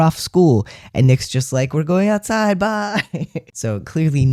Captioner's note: laugh